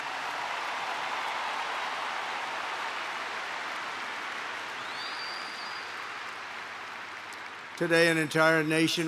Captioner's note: applause